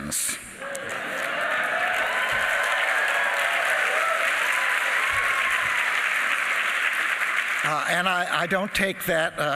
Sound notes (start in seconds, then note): 7.7 applause